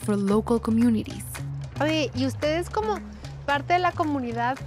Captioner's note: speaking Spanish